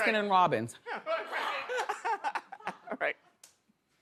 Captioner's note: laughter